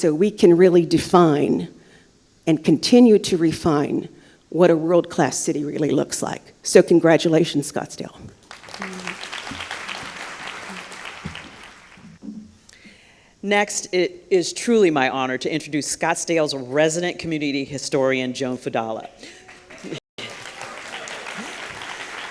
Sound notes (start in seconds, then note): 8.3 applause; 20.1 applause